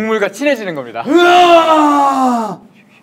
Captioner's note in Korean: 포효